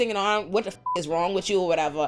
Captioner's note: beep